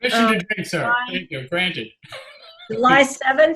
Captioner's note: laughs